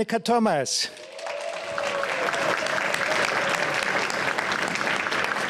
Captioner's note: applause